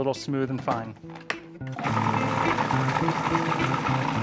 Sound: processor whirring

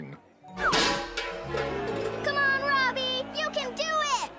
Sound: clatters

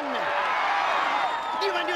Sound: cheering

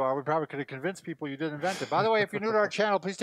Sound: laughs

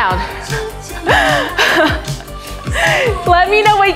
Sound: chuckles

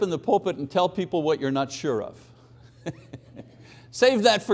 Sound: chuckles

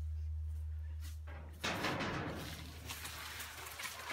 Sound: clattering of steel on steel

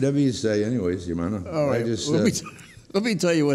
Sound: laughs

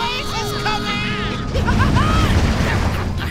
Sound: laughing

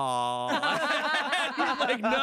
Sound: everyone laughs

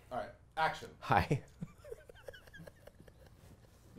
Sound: giggles

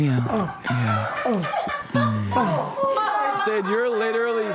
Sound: producers laughs

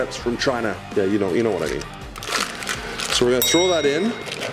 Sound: bell dinging

